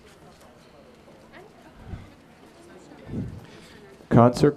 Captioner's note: general chatter